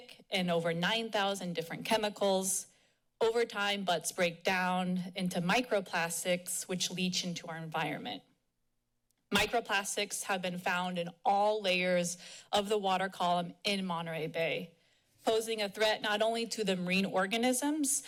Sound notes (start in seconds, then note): none